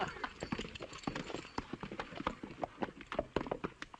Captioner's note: horses trotting